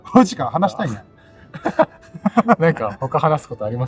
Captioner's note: laughs